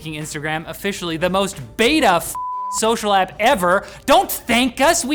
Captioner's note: beep